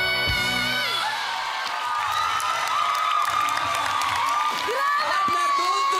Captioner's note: cheering, applauding